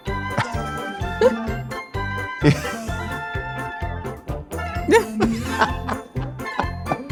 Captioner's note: cheerful music; laughs; laughs; cheerful music